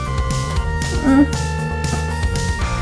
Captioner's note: sad noise